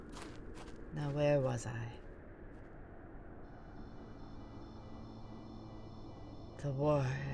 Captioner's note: footsteps leave